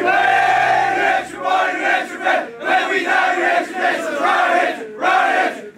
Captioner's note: team chanting